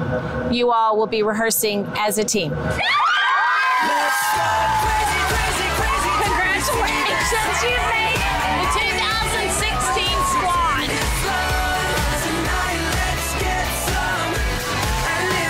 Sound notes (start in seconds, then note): 3.1 women cheer